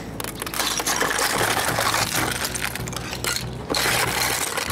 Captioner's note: ice clattering